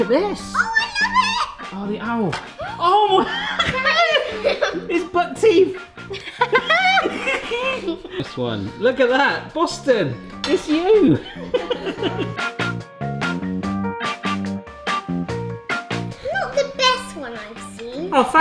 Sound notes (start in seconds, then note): 2.5 gasp; 2.6 exclaims; 6.0 laughter; 10.9 laughter; 11.4 funky music